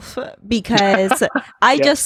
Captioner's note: laughing